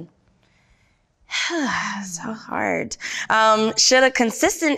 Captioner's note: sighs